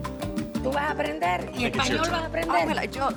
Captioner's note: speaks Spanish